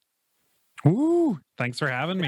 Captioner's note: exclaims